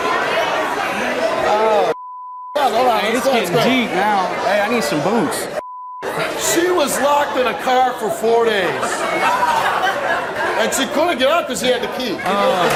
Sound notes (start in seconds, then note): 8.6 audience laughing; 12.5 audience laughs and applauds